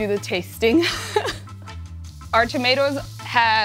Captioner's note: laughs